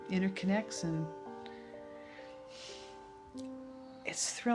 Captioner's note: takes a deep breath